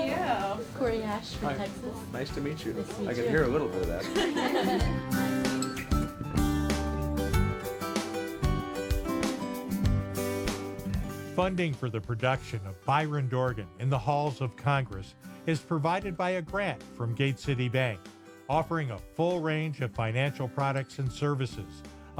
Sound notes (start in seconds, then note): 3.3 all laugh